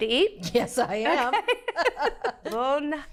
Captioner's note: both laughs